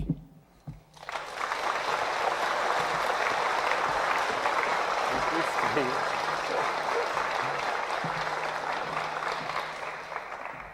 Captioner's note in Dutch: applause